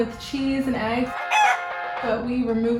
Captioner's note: chicken cackle